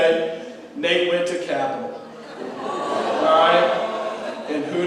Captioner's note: crowd jeers